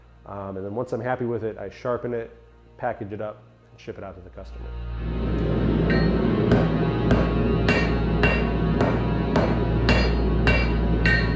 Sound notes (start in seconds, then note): 3.8 ominous music; 5.8 banging